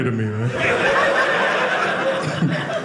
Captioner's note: audience laughing